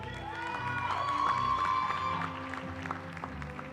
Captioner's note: cheering